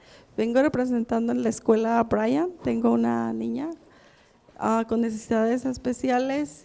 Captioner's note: speaks in a foreign language